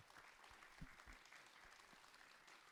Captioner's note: audience applauds